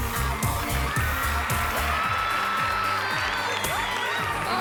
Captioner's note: applause and cheering